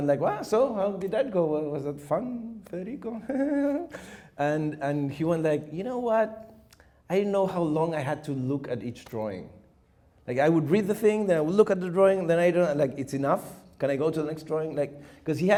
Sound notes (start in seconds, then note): 3.0 chuckles